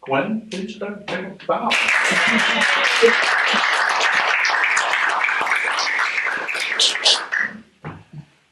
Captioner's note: applause